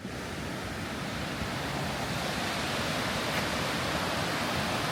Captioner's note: water flowing